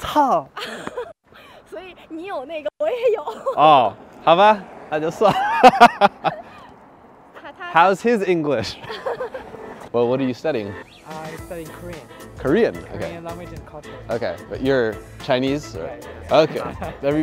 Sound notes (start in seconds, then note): 0.6 laughter; 2.9 speaking in foreign language; 8.6 laughter